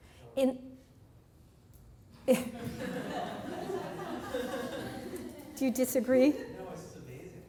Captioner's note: laughs